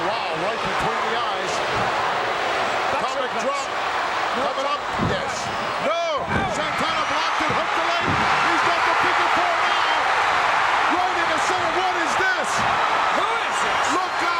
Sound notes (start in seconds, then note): 11.4 audience cheering